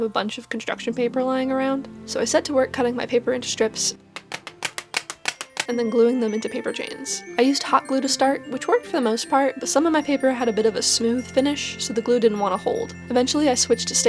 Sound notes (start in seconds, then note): 4.1 sound of paper thwacking